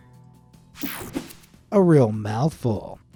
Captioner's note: screen buzzes and whooshes